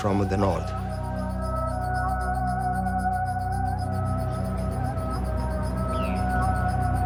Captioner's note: gentle music continues; birds chirping